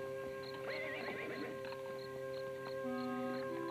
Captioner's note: gentle music; horse whinnies; gentle music